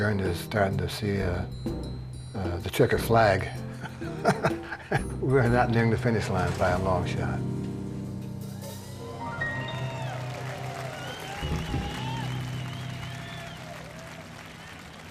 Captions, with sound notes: is starting to see the checkered flag. We're not nearing the finish line by a long shot. (audience applauding and cheering)